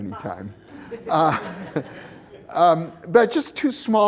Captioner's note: laughter